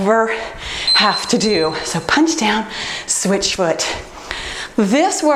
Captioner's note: timer beeps